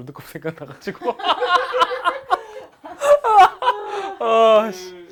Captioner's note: laugh during hard time